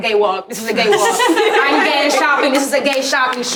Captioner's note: everyone laughing